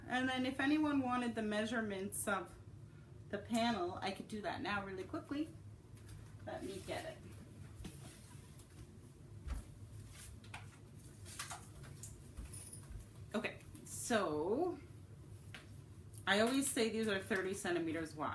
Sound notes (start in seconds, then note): 9.5 rustling